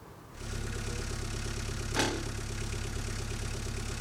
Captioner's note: machine whirring